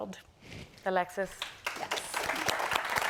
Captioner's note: applause; applause continues